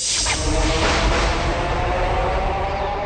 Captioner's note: swirling, thunder